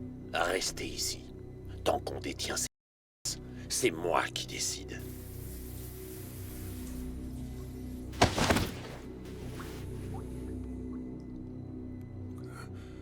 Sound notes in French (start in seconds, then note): 6.2 la musique douce et tendue continue; 8.1 battement de serviette